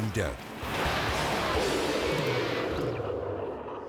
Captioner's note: bobsled scraping